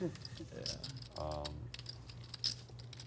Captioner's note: chuckles